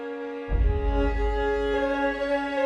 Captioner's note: deep thump